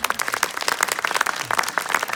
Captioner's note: applause